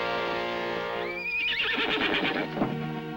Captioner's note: horse neighs